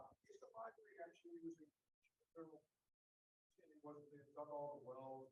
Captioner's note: faintly speaking